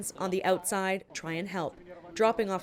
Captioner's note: speaking Foreign Language